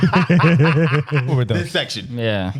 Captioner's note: laughing